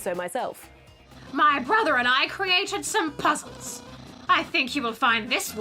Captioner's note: mimics old woman